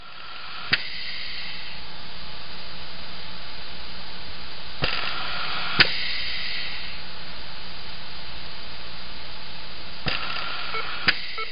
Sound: ventilator noises

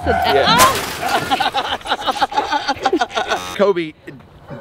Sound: Rocky laughs; screams

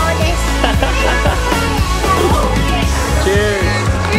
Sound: laughing

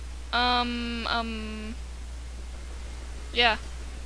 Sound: none

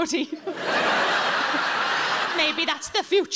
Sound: audience laughing

